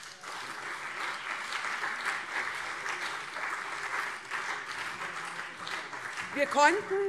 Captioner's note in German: Beifall CDU und SPD